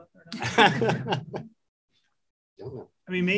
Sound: laughter

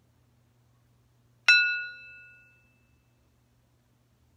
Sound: ringing

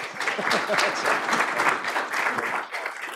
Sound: applause

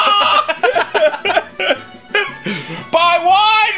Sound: laugh like there's no tomorrow

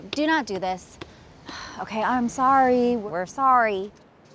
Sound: sighing

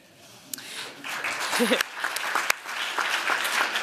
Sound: applause

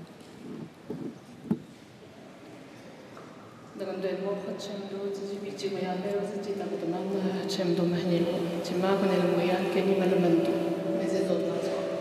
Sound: crowd noise; speaking Alternate Language

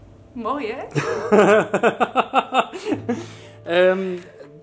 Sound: laughing

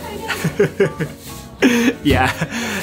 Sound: chuckles

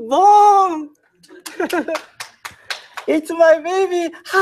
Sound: clapping

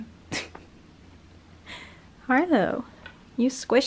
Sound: laughs

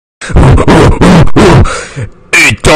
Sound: grunting

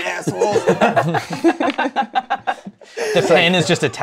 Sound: laughter

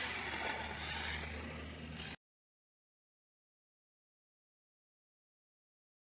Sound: tape winding

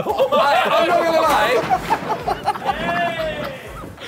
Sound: Sidemen laughing

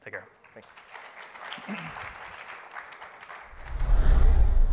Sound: applause

